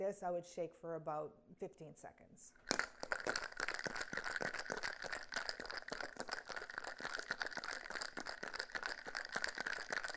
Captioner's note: sound of cocktail and ice mixing in shaker